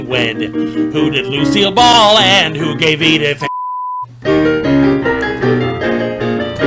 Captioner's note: beep